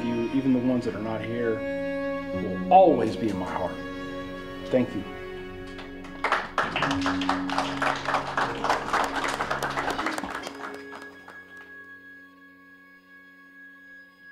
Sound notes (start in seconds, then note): 5.6 community clapping